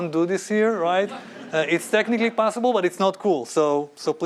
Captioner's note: laughter